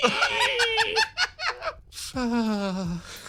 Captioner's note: laugh